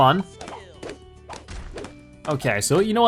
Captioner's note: balloons popping